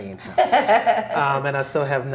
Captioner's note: laughs